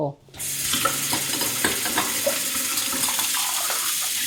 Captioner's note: water running